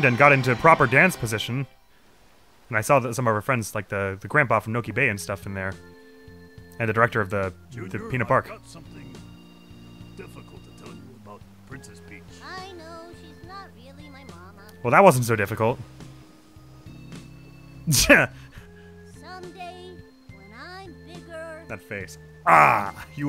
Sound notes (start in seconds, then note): 17.9 laughs abruptly